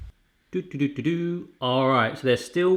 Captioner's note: humming